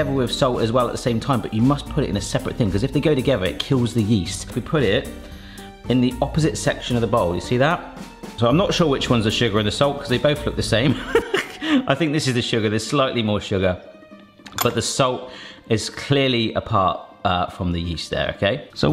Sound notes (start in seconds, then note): 10.9 laughs